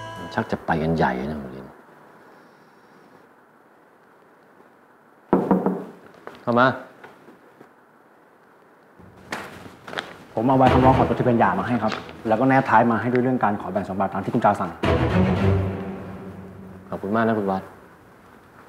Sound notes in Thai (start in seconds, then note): 5.3 เสียงเคาะประตู; 8.0 เสียงเปิดประตู